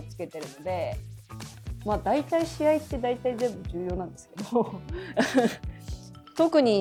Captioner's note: laughs